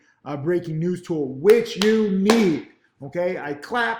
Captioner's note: clapping